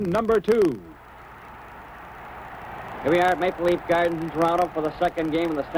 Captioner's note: crowd cheers